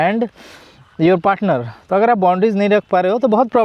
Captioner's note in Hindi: नाक से की जाने वाली आवाज़